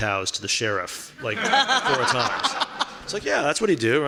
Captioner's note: laughing